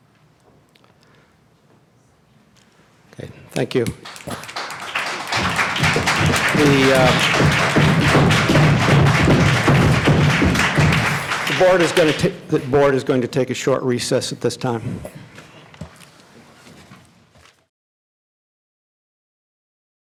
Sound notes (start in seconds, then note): 4.2 applause; 7.8 crowd stomping their feet